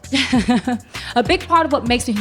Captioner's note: chuckles